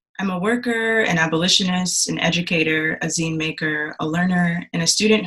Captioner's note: none